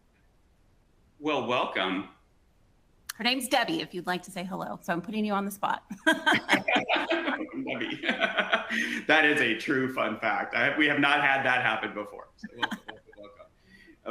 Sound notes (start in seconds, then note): 5.9 both laughing; 6.0 laughing